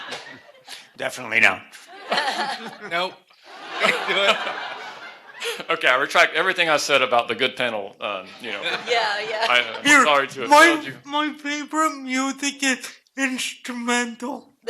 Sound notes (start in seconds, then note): 0.0 laughter; 3.5 laughter